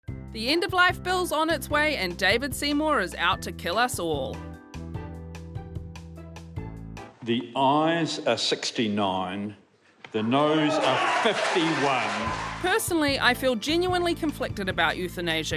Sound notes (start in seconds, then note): 0.0 upbeat music; 10.2 audience cheering